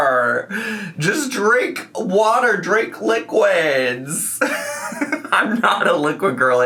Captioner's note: laughs